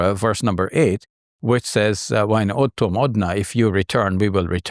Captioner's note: speaks in Arabic